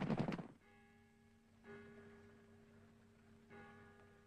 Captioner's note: clock chimes